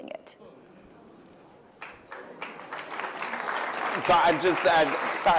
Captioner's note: applause